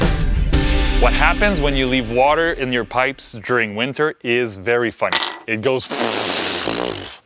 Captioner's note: fart sound